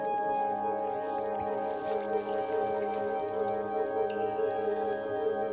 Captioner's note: water trickles and drips